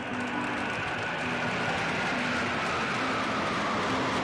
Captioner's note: planes roar overhead